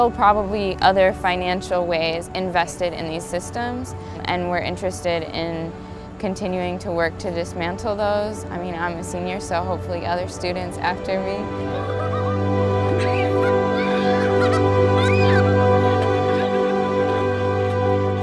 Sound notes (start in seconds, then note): 12.3 rising hopeful violins; 13.3 children laughing and playing; 14.3 ethereal choir